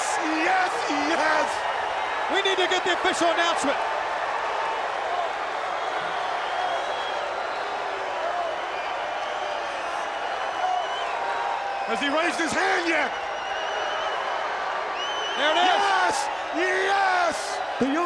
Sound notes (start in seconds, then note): 4.2 crowd cheering; 4.2 crowd whistling